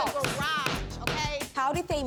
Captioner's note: gavel banging